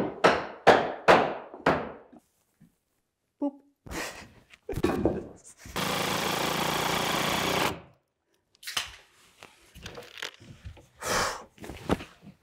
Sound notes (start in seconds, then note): 0.0 hammering; 3.9 laughs; 5.7 tool whirring